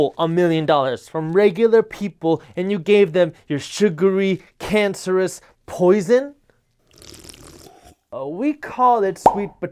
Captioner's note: slurp